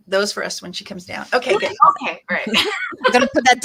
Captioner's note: laughs